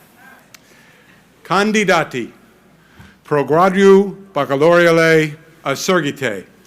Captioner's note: speaks in foreign language